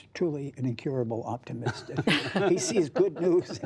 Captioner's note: laughter